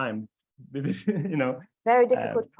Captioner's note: laughs